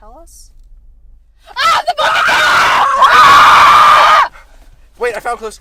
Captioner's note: screaming